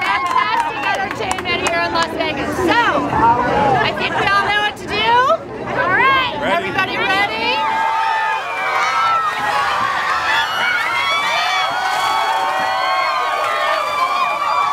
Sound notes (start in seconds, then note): 7.0 cheering and yelling; 11.0 shrieks; 14.1 cheering